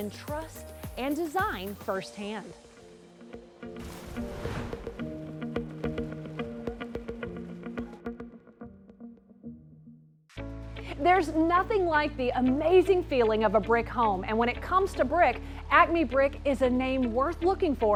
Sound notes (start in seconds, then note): 3.8 splash